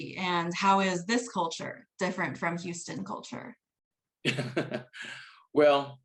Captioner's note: laughs